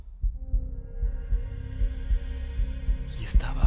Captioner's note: heartbeat